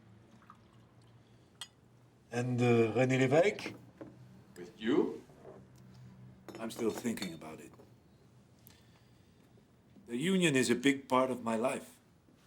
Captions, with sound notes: (liquor pours) - And Rene Levesque? - With you? - I'm still thinking about it. The union is a big part of my life,